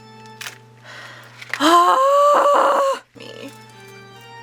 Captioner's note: triumphant and exasperated scream-sigh